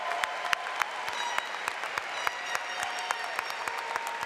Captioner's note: applause